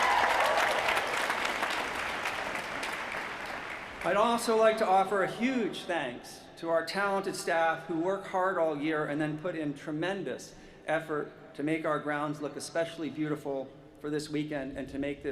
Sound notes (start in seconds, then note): 2.5 applause